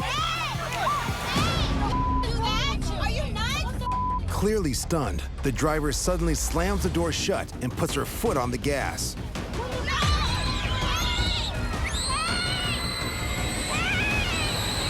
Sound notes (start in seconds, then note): 9.6 children screaming